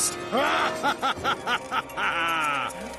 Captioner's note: evil laugh